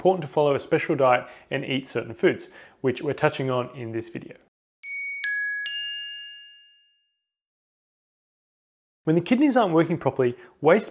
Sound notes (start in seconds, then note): 4.8 gently chiming bells